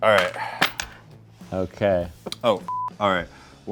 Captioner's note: laughs; beep